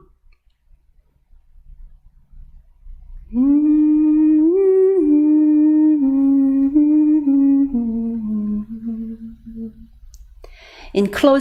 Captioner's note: is humming